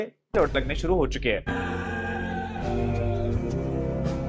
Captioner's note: screaming